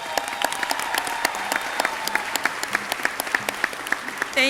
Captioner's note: audience clapping